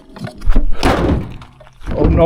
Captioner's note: hood slams back down